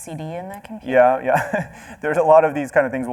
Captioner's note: laughs